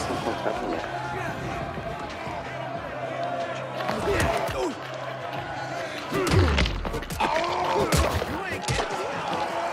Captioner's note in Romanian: Aplauze